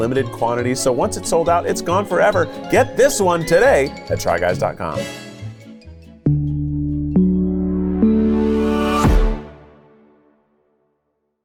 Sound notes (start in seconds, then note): 6.4 stomps